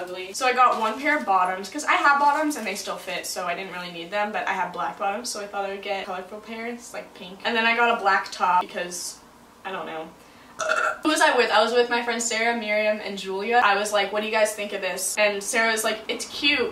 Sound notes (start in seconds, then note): 10.6 burps